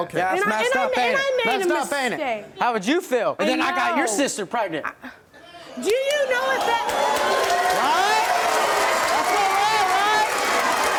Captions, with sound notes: - And I made a mistake! - How would you feel if then I got your sister pregnant? - Do you know if that-- (crowd cheers) - Right? That's my right, right?